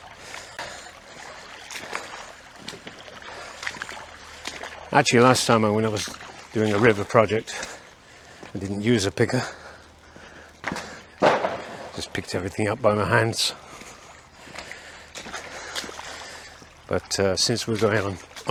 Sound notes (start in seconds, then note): 0.9 water sounds